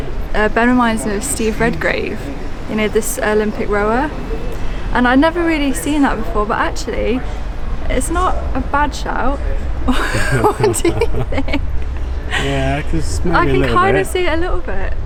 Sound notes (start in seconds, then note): 9.8 laughing